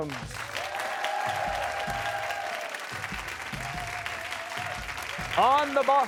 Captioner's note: cheers and applause